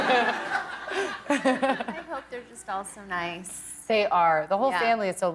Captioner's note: laughter